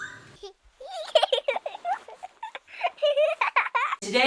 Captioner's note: laughing; child giggling